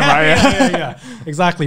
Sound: men laughing

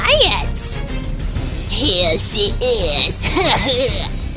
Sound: with sarcasm

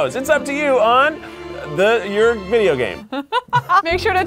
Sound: chuckles

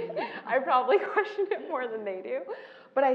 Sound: laugh

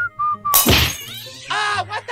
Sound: whistling; thwack!

